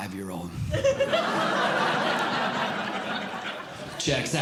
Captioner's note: audience Laughing